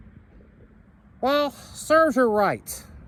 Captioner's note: normal voice